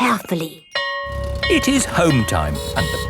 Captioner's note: school bell ringing